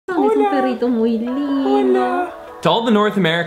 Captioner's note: speaks in foreign language